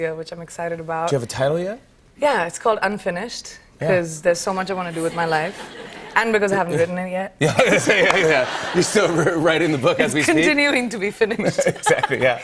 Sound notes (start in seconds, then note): 7.4 laughter